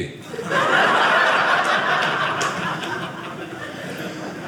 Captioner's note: audience laughing